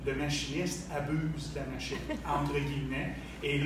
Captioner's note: laughs